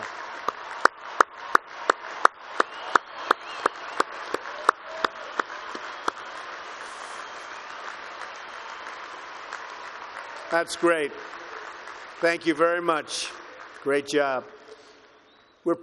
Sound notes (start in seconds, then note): 1.4 applause